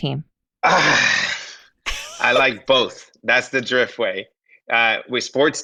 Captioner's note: sighs